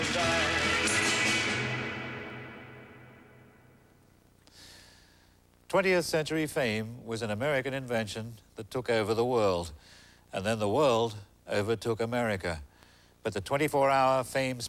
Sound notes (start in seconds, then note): none